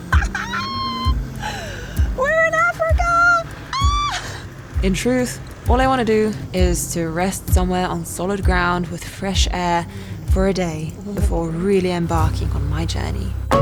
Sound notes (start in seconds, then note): 0.0 laughs excitedly; 3.7 squeals